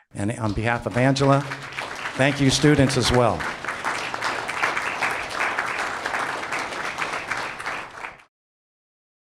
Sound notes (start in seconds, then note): 4.4 audience clapping